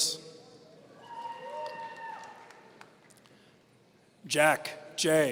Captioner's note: audience cheering